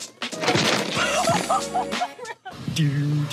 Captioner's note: fence cracks; dog owner humming